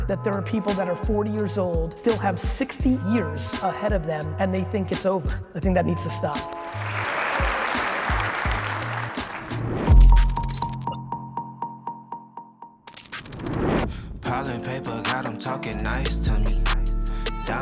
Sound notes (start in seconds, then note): 6.4 audience applauding; 9.8 mellow music